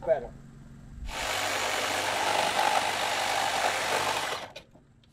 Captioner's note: saw cutting wood